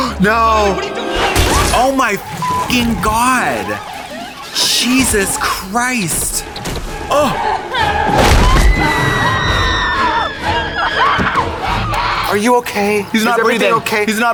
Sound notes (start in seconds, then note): 6.4 horror music; 8.8 people screaming